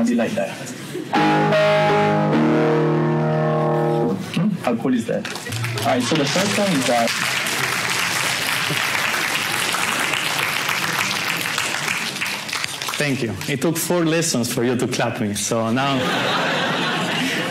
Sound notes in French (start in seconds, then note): 5.2 Les étudiants applaudissent; 15.8 rires